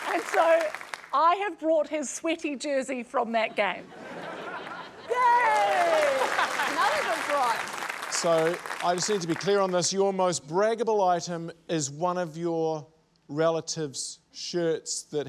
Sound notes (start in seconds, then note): 5.1 applause